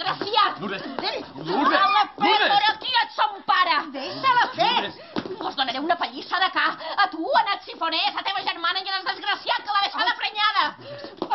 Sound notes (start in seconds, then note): 0.0 slap; 1.5 Xiscla de dolor